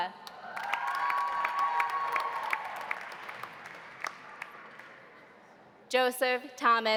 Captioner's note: audience applauding; audience cheering